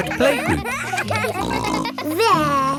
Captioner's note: kids giggling